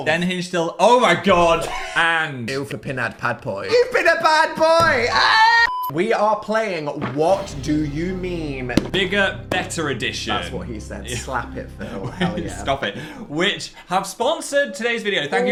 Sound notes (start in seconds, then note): 5.0 shouts; 11.8 laughs